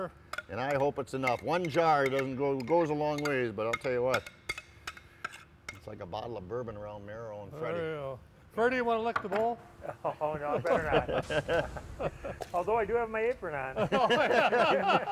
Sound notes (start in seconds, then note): 9.8 laughs; 10.4 all laugh; 13.8 all laugh